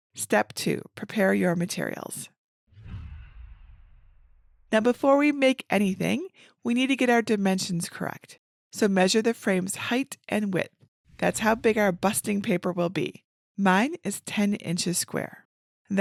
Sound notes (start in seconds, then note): 2.7 image whooshes